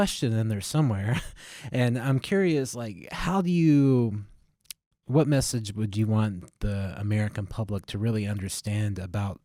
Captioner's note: laughter